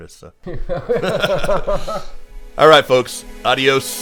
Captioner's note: both laugh